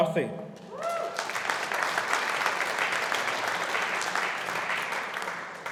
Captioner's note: audience applauding